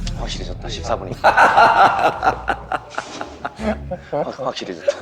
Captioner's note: laughing